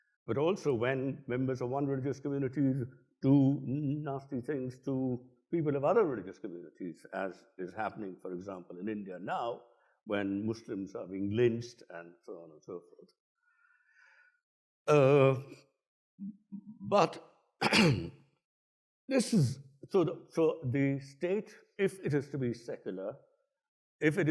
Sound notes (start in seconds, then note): 17.6 clears throat